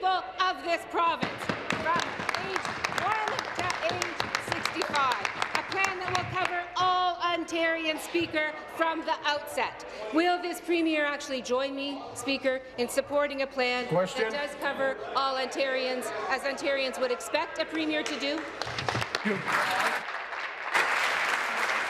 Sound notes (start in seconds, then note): 4.6 applause